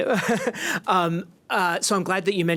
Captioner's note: laughs